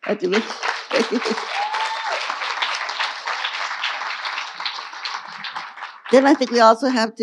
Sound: audience applauding and cheering

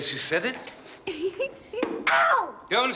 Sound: Oswald sniggers

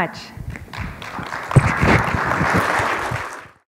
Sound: applause

